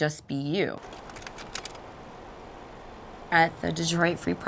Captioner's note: camera whirring